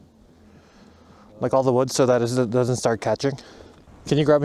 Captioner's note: stutters